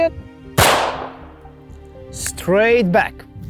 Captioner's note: gunfire pops